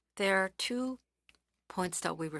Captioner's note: speaking French